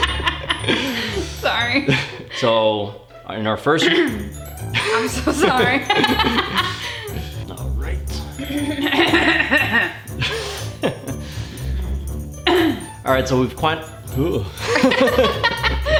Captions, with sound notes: sorry so in our first i'm so sorry (laughter) all right so we've quite (laughter)